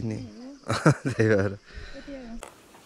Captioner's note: laughs